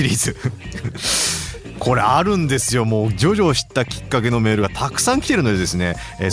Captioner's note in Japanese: 鼻息